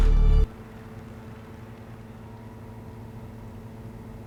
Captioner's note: fluorescent lights hum